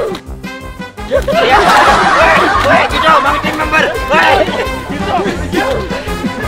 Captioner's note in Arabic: يضحك